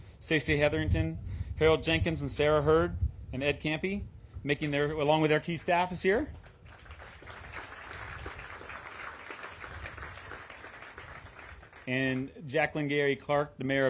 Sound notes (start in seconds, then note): 8.1 applause